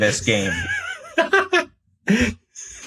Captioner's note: laughs